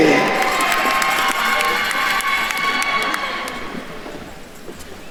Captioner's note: attendees cheering and applauding